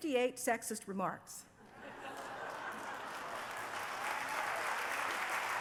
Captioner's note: laughter and applause